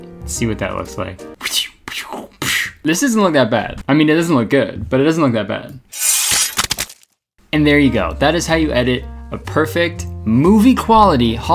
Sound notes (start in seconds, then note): 5.9 blade slashing